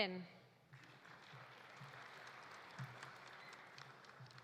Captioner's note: audience applauding